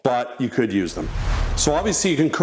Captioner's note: graphic whooshes